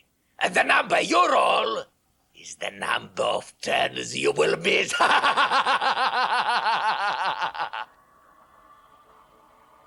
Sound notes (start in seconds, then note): 4.9 Gatekeeper laughs maniacally